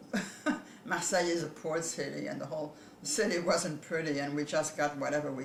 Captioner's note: laughs